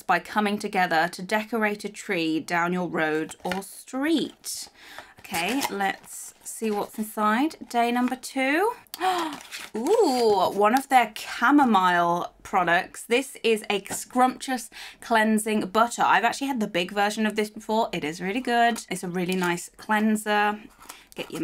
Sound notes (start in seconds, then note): 8.9 gasps